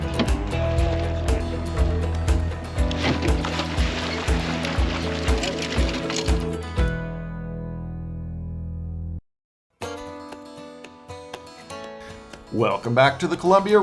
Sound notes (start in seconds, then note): 0.2 fish splashing; 5.4 tackle clattering